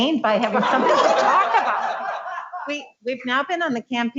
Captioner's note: laughs